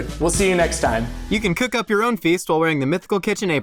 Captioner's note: manly Voice